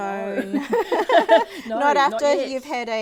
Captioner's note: women laughing